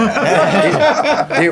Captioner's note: laughing